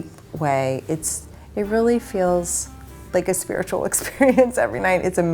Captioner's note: laughs